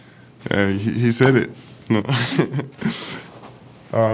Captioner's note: laughs